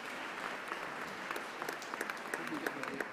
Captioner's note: applause